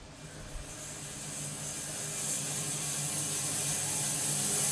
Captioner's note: sawmill whirring